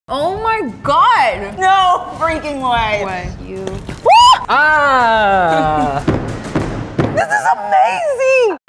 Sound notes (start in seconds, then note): 4.1 screams; 5.5 hammering